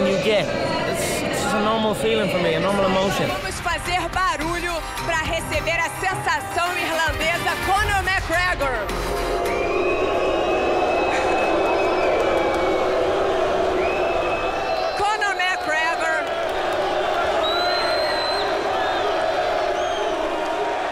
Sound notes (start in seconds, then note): 4.4 speaking Portuguese; 9.1 crowd booing